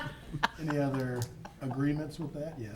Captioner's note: councilors chuckling